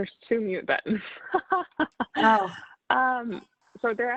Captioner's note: laughs